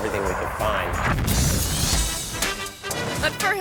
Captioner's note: car crashes; upbeat instrumental music